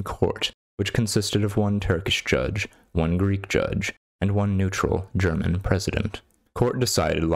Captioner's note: German